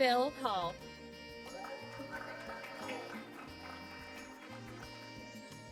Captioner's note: applause